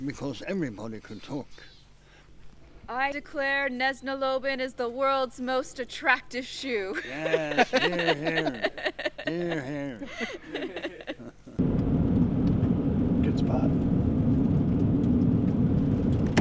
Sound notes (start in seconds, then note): 6.9 all laughing; 11.6 car engine